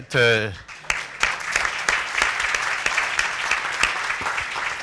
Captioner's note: applause